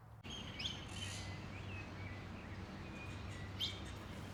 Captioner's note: birds chirp